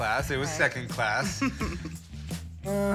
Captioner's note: chuckles